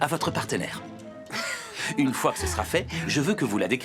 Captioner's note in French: les deux gloussent